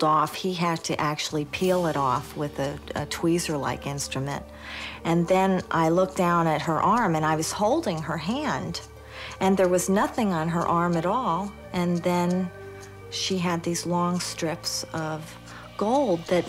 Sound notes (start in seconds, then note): none